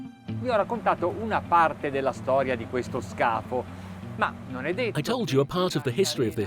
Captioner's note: light electronic music; speaking foreign language